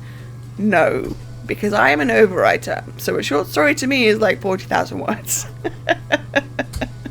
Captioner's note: laughs